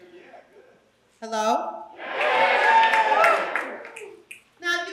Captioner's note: applause